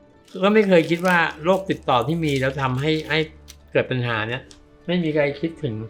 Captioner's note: speaking foreign language